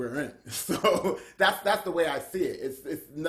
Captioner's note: laughs